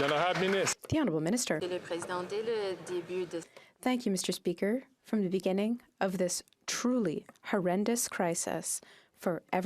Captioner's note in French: applaudissements